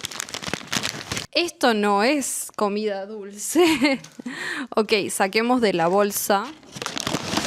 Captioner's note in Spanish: risas